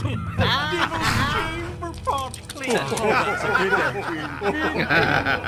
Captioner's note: laughter